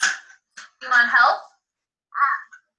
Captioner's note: disembodied Female Voice